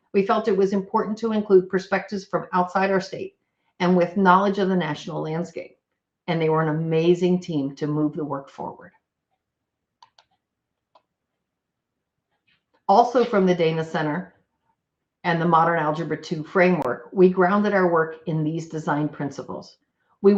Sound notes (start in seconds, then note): 10.0 computer mouse clicks